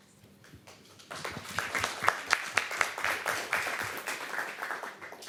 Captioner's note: applause